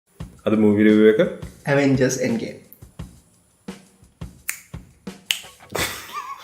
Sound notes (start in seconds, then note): 5.2 snaps again; 5.2 snaps